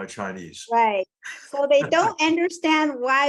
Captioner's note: laugh